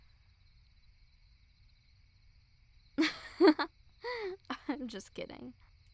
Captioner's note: soft laugh